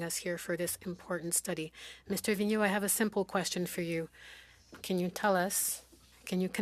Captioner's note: speaking French